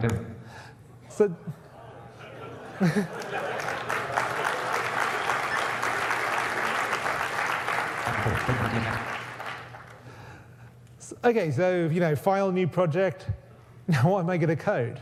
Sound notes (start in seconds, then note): 0.0 Jaws speaks contents of New Project window at incomprehensible speed; 2.3 audience laughs, then applauds